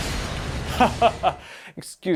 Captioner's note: laughs in Canadian